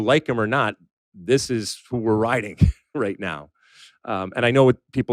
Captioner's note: laughs